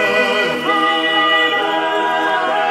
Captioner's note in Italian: Applauso